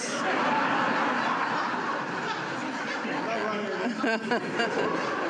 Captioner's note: laughter